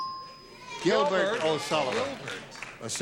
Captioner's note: ding